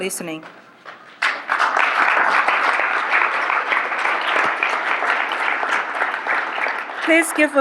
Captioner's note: applause